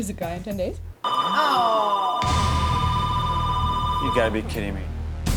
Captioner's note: phone rings; women groaning